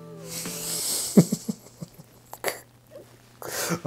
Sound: giggles

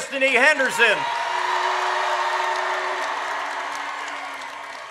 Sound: audience cheers

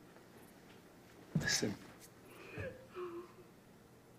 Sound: nina crying

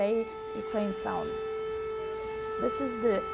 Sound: sirens wailing

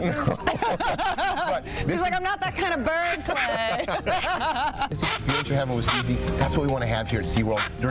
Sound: laughter

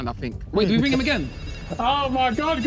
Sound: phone ringing

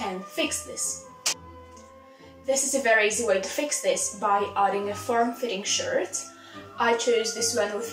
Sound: clap

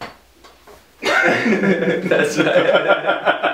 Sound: laughter

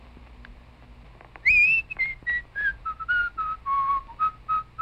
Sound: whistling

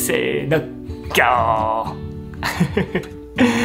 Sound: lion roar in Japanese

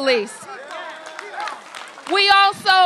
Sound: applause

